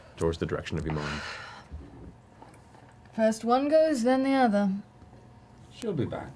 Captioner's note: exhales